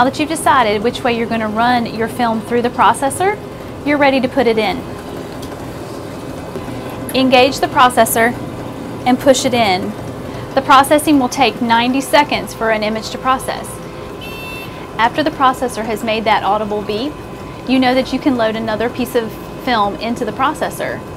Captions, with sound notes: Now that you've decided which way you're going to run your film through the processor, you're ready to put it in. Engage the processor and push it in the processing will take 90 seconds for an image to process (Beep) after the processor has made that audible beep you know that you can load another piece of film into the processor.